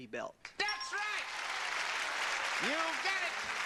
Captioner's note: audience applause